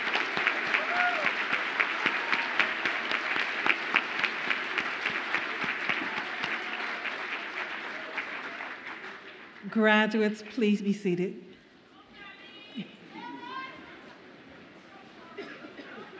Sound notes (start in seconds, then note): 0.0 audience continues applauding